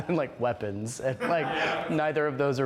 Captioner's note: laughs